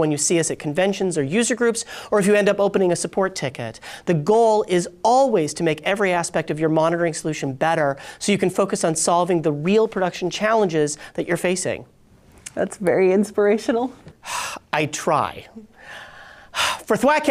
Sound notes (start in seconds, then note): 14.2 sighs